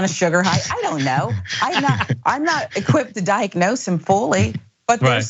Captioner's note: laugh